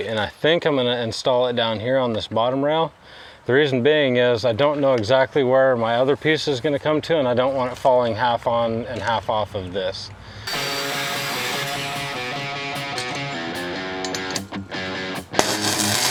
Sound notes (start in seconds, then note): 10.4 drilling; 10.5 upbeat music; 12.7 metals clanking; 13.2 upbeat music; 15.6 crackling